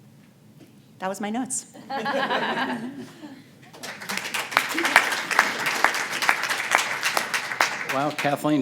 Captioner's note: laughter, applause